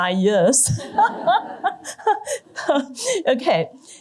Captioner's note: laughter